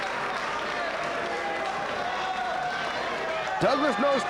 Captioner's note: audience applauding